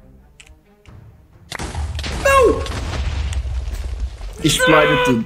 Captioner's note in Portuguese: som de explosão